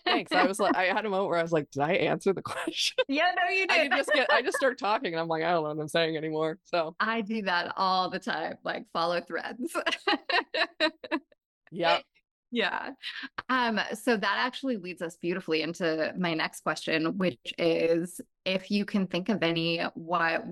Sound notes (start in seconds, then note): 2.5 laughing; 9.8 laughs